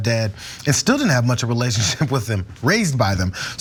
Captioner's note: laugh